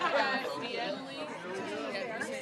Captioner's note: laughter